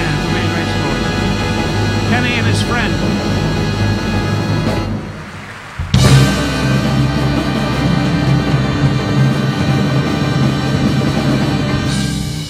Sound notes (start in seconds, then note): 5.1 audience applauding; 6.7 dramatic instrumental music